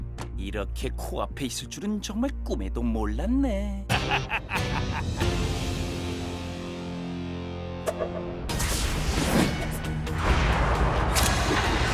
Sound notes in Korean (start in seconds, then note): 3.8 두리안 웃음소리